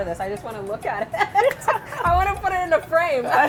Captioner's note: both laugh